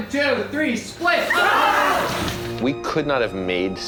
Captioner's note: crew shouting